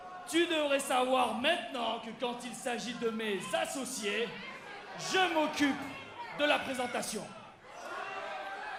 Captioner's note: speaking in foreign language